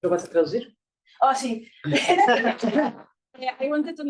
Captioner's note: attendees laughs